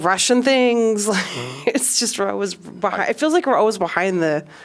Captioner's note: laughter